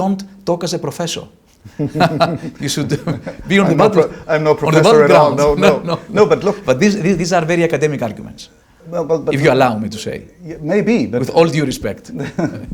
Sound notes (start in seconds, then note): 1.7 laughs; 12.0 laughs